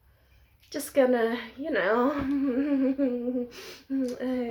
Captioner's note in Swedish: falskt skratt